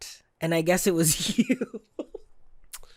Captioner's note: giggles